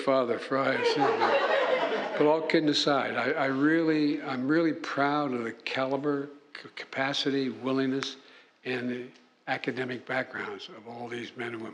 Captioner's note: laughter